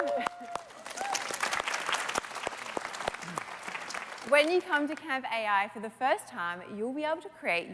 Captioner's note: applause